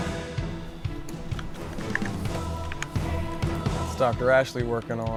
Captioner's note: keys clicking